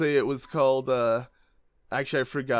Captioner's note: slight silence